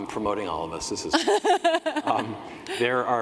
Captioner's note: laughing